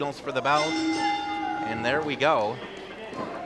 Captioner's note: bell rings